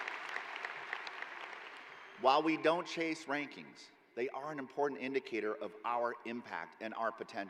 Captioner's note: cheering